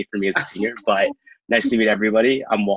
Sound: laughs

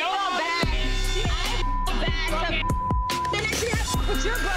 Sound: beep

